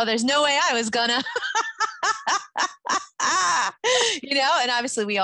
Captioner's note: both laugh